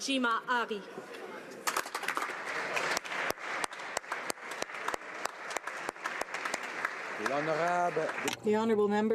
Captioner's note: speaking Alternate Language